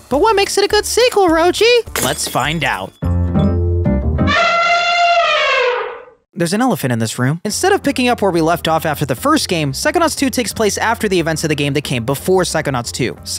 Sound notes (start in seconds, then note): 3.0 upbeat music; 4.2 elephant trumpeting